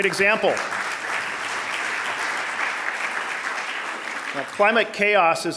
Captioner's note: audience applauding